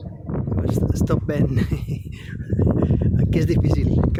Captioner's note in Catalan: Riu